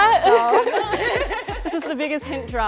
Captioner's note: women laugh